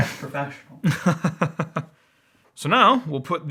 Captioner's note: laughing